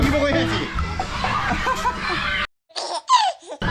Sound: laughing

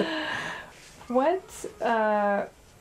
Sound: laughter

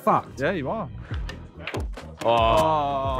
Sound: cue hitting ball; all groaning

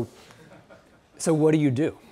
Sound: audience member laughing

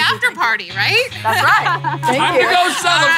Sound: laughing

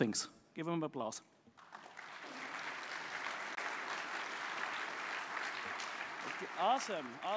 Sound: applause

